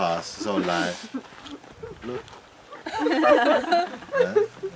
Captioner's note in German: Mehr Gelächter